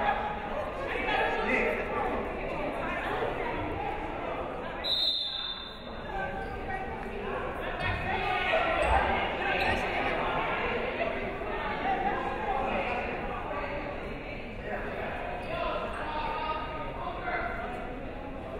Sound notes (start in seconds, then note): 4.8 whistle blows; 7.9 crowd chattering